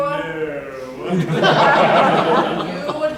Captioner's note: laughter